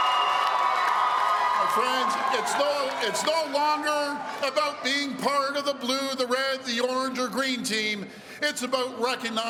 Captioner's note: cheering